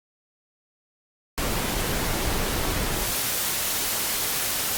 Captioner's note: static plays; bright static plays